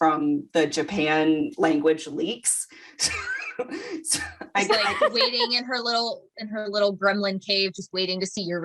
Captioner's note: wheeze